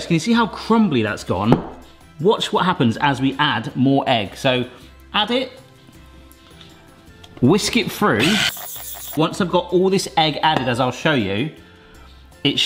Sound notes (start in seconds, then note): 8.2 electric whisk whisking